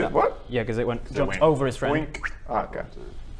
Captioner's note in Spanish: wrrt